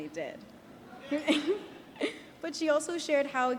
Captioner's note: chuckles